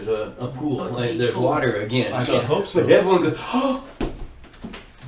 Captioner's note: gasp